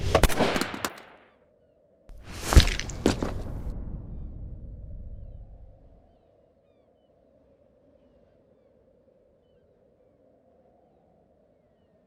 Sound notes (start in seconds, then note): 0.0 gun fires; 0.1 skateboard whacks; 2.2 skull cracks; 2.4 skateboard bangs; 4.7 gulls shrieking; 4.7 wind whistling